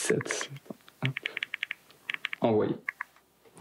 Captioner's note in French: clapotis des touches